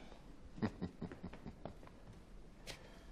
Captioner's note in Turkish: Gülme sesi